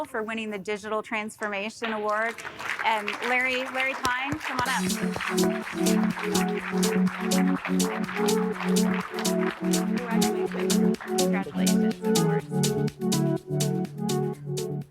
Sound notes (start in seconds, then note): 4.6 intriguing music; 5.2 audience applauding